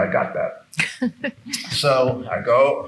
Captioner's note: participant laughing